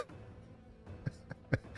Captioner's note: laughs